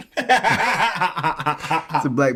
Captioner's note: laughing